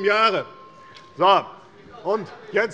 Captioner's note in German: Unruhe - Glockenzeichen der Präsidentin